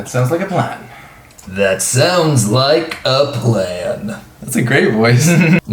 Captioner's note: deep voice; laughs